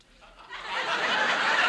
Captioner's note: audience laughs